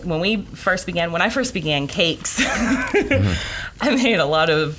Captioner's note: laughs